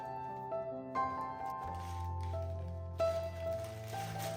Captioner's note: dough layering